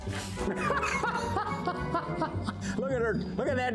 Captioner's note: laughing